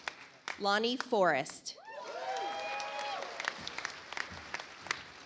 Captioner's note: audience applauds